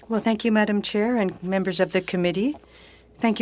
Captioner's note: speaking French